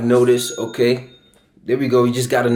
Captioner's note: bell rings